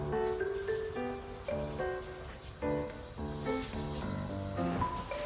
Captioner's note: bedding rustles